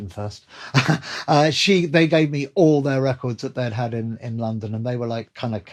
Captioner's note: laughter